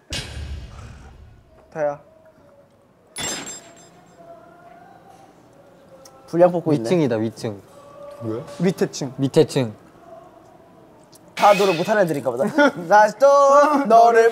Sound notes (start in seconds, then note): 3.8 noisy neighbors